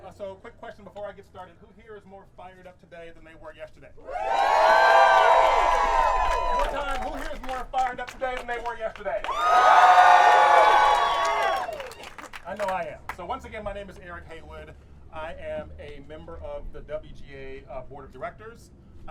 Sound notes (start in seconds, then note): 4.0 audience cheering; 9.2 audience cheering